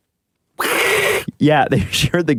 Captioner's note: hiiissss